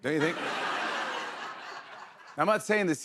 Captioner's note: laughter